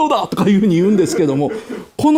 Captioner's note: laughs